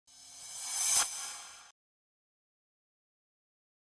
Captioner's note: sound effect